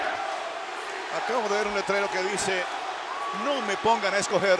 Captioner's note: applause